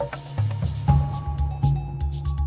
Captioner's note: none